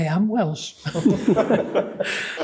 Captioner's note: laughter